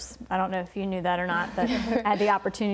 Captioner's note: chuckles